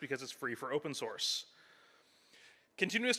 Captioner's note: none